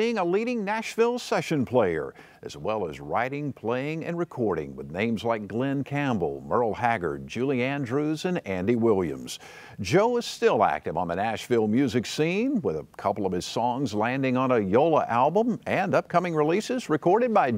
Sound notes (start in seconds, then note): none